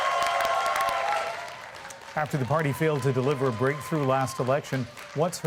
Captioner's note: applause